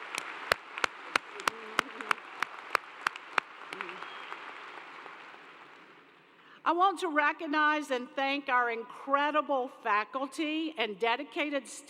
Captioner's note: applause